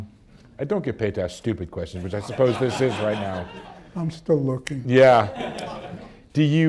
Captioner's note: laughter